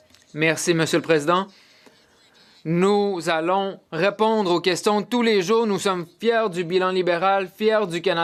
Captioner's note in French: voix de l'interprète